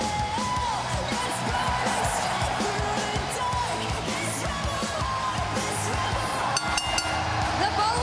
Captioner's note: cheers and applause; bell ringing